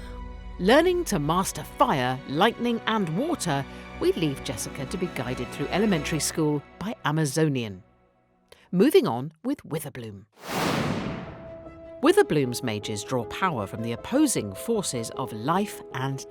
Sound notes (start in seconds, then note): 10.4 air whooshing